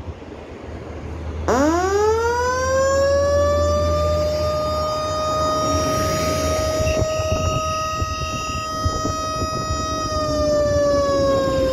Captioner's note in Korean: 싸이렌 울림